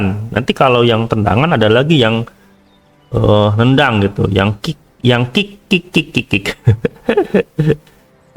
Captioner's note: laughs